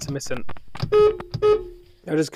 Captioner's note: beep beep